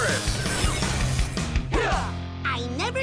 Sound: Rangers grunt

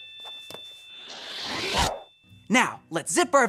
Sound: air whooshing

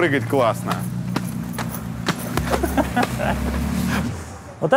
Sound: hopping, laughter

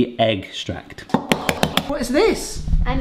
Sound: eggs cracking

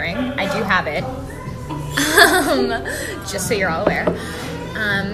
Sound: laugh

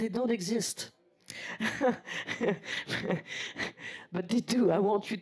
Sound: laugh

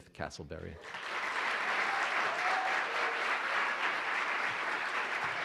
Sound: audience applauding

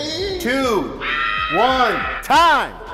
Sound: screaming

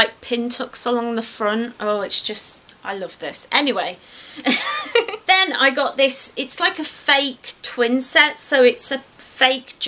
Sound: laughs

